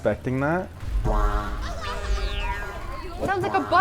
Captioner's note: air blasting